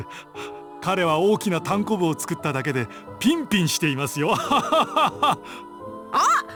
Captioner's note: awkward laugh